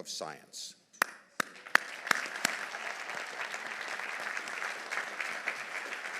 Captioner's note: audience applauding